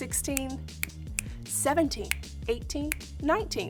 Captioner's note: snapping; snapping; snaps